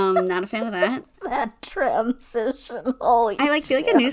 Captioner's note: laughing